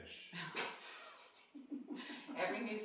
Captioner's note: laughing